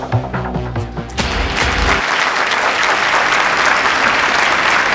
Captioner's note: All clapping